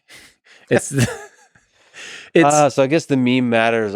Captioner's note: Tim laughs